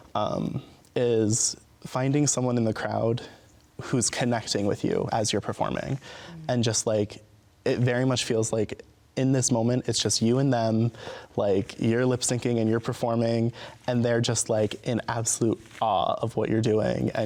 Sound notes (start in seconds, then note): none